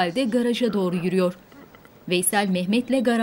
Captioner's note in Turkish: Kuş sesi